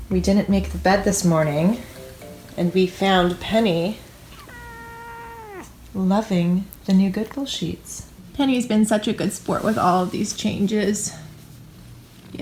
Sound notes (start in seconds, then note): 4.2 meowing